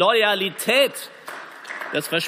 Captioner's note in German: Beifall